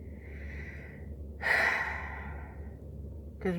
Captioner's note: sigh